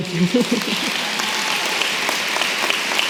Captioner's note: applause